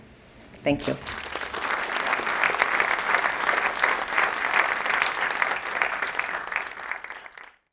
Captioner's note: applause